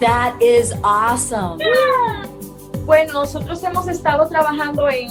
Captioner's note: family cheers